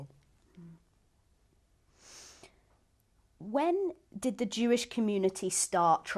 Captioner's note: pauses for 3 seconds